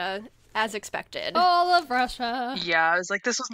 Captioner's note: in a sing-song voice